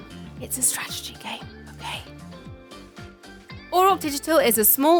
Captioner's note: whispers